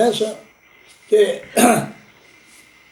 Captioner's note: coughs